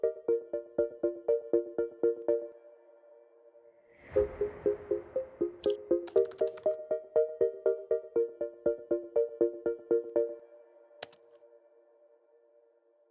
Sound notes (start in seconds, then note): 6.0 keyboard keys clacking